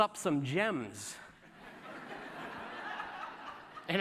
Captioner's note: laughter